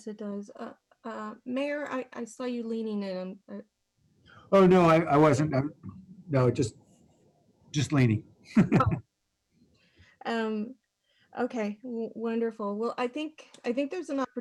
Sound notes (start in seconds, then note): 8.5 laughter